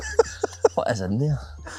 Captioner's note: laugh